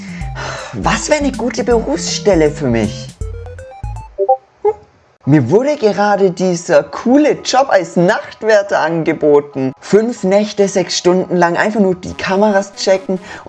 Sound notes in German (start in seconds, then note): 0.0 seufzt; 3.4 Discordsound.mp3